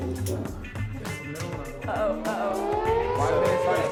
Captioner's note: siren Sounds